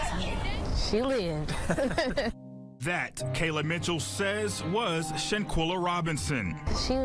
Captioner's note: laughter